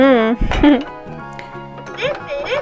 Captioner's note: laughs